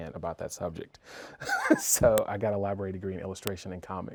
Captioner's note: laughing